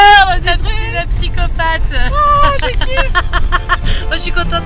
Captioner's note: laughs